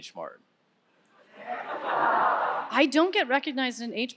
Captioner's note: audience laughing